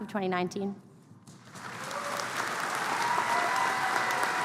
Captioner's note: applause